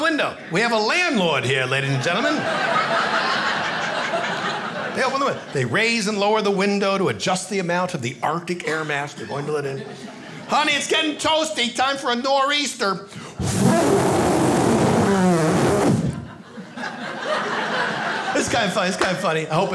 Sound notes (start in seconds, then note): 1.8 audience laughing; 12.4 imitates wind whooshing; 15.9 audience laughing